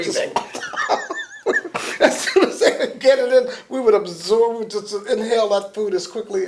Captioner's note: laughter